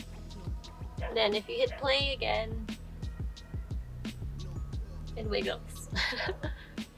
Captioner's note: laughs